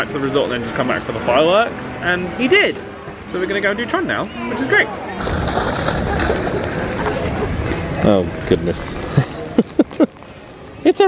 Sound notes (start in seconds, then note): 5.2 water splashing; 9.1 chuckles